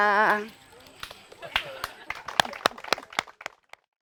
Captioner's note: applause